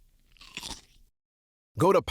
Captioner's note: crunches the pickle